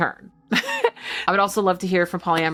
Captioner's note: chuckling